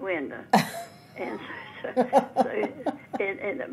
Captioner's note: laughing